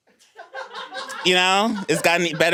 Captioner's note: everyone laughs